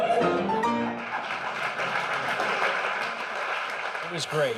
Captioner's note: laughter and applause